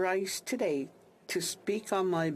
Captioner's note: speaking alternate language